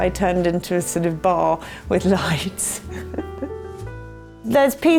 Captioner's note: laughs